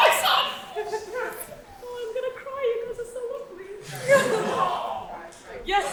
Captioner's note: audience laughs